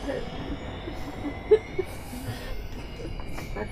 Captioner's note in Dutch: iemand weent